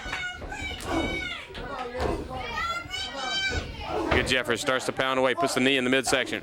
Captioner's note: crowd cheering